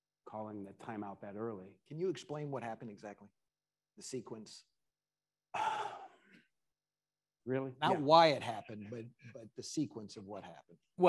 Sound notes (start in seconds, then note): 5.5 sighs